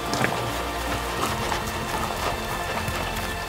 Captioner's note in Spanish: perro jadeando